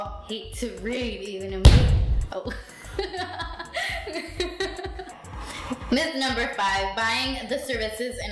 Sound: laughing

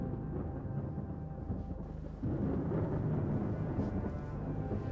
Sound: thunder rumbling

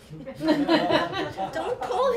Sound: laughter

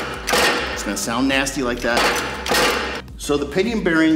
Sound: load metal creaking; loud metal creaking

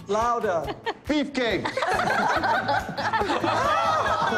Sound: laughter

